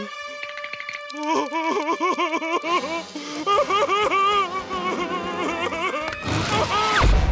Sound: laughing

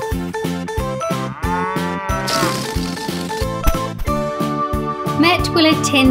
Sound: flatulence

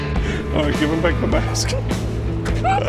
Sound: laughing

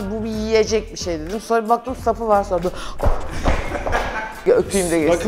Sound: laughter

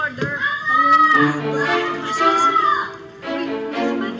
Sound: Michael shouting

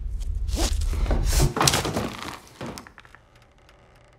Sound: body drops from noose

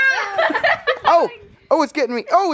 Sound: girl laughs

